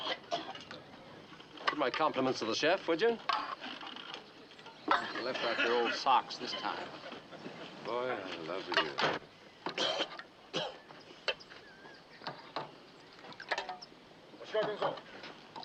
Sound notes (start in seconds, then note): 9.7 coughing; 14.1 speaking japanese